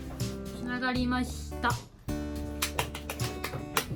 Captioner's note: applause